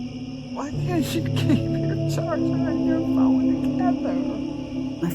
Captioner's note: crickets, eerie music; crickets